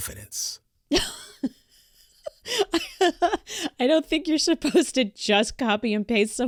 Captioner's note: big laugh